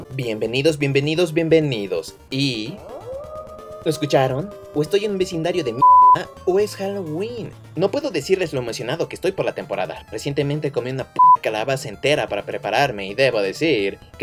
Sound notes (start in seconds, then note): 2.5 wolf howls